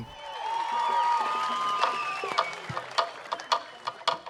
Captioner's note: cheering, applause